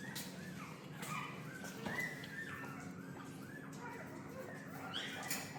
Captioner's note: sound of puppies from nearby